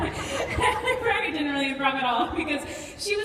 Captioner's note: laughs